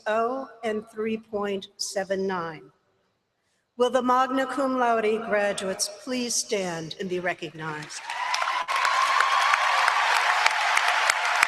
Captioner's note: applause